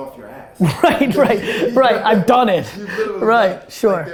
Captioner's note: laughing